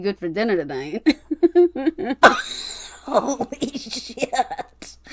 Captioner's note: laughing